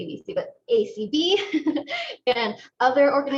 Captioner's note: laughter